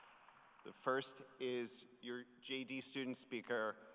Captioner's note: cheers and applause